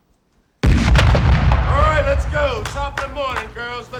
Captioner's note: rifle shot